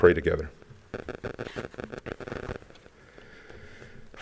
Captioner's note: paper rustling